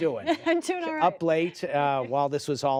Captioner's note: laughter